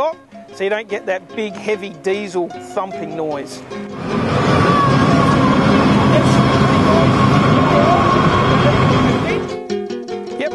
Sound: noise of goods train passing

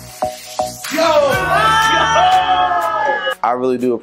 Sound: family cheering

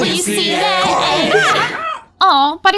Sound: scream

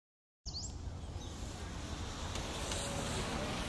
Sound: bird chirps; students murmur

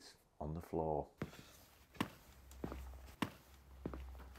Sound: footsteps

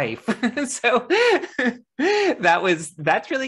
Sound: laughing

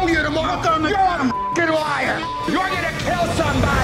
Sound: beeping

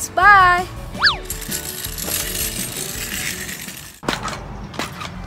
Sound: engine-like noises; bouncing noises

